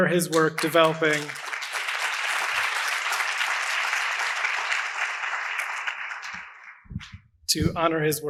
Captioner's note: applause